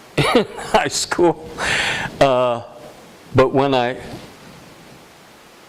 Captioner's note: laughter